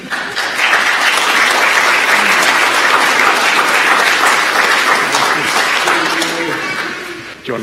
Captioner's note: applause; laughter